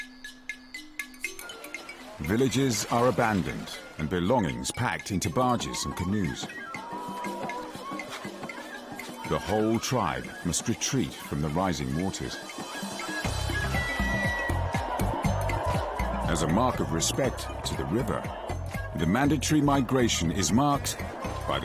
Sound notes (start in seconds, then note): 5.7 upbeat music; 10.5 crowd chanting; 10.5 upbeat music